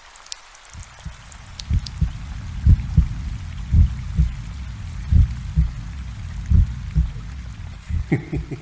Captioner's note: sound of a steady heartbeat gradually slowing; ominous laughter